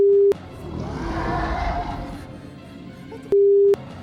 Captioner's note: roars; dramatic music